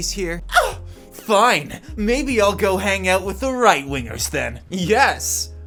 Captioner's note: dramatically gasps